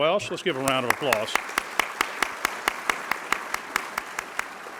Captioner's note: audience applauds